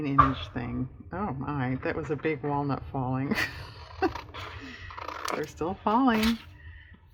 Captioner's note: laughs